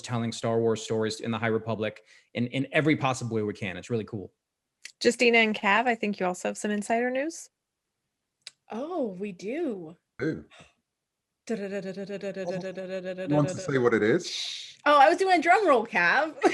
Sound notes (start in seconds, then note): 10.2 imitating drum roll